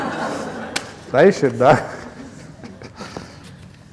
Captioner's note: laughter